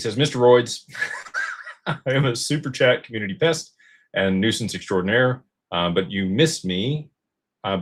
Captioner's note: laughter